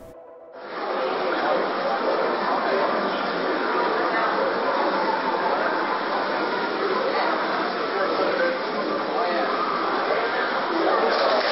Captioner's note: crowd noises